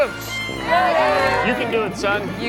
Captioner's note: group cheers